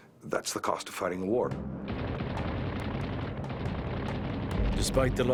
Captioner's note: gunfire